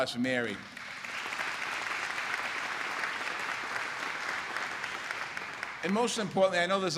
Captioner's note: applause